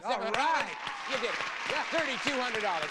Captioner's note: audience cheering